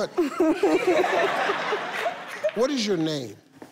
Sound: all laughing

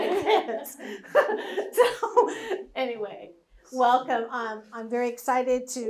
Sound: laughs

